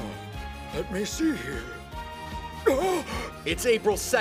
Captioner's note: gasp